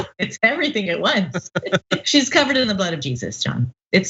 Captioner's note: laugh